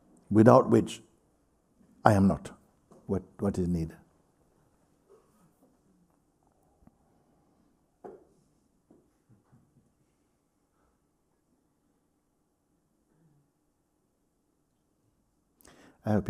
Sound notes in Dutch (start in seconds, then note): 8.2 stilte